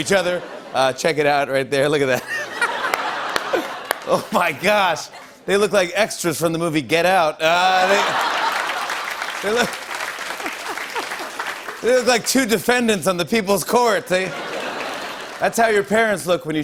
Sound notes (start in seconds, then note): 0.1 laughter; 2.1 laughter; 7.7 laughter; 7.9 applause